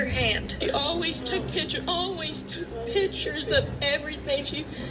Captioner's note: on TV